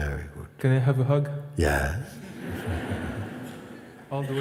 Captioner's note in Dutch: gelach